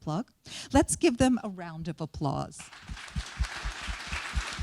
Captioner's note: applause